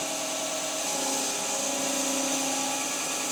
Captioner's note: saw whirring